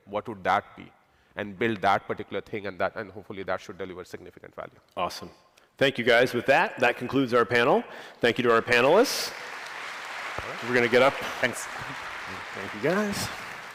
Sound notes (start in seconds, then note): 8.5 applause